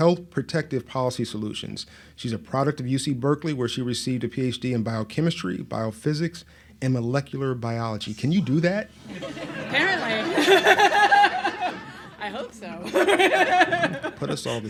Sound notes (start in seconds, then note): 9.0 audience laughs; 11.8 laughs